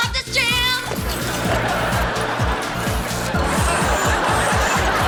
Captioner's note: audience laughs